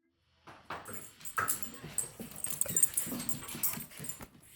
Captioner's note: collar clinking